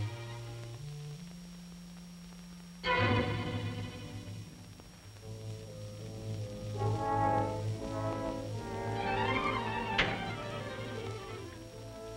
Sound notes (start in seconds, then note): none